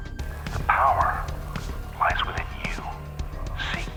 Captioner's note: voiceover